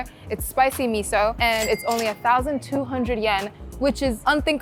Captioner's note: chime ringing